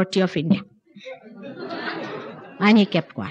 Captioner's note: laughter